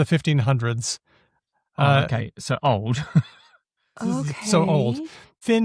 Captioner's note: laughs